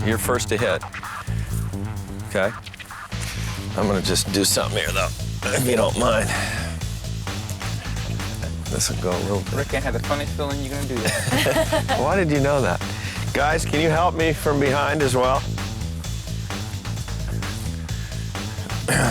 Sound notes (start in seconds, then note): 11.0 lalaugughthterer